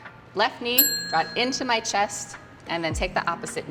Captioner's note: bell dings